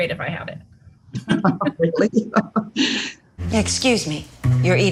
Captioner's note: both laugh